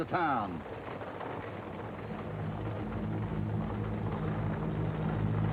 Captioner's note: wagon rattling